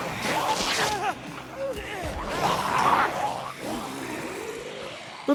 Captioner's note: Sounds of Jonnie Fortune being eaten